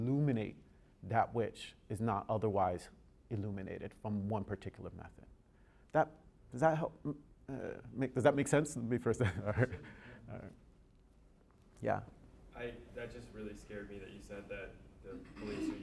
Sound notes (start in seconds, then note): 9.4 laughing